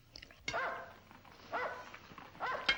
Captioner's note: dog barking